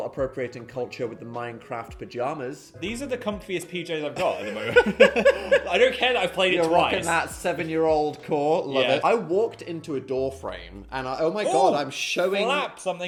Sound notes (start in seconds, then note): 4.2 both laughing